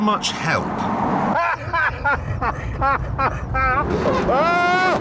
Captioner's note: james laughs